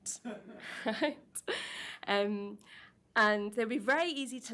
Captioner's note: audience laughs